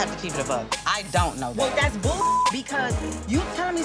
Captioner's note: beep